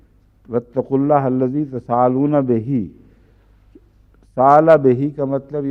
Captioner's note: Arabic